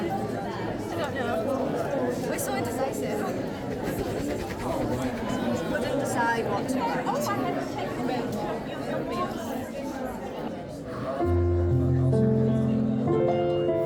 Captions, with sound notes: We're so indecisive. (crowd chattering) (piano music)